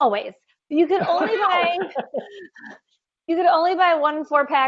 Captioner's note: laughing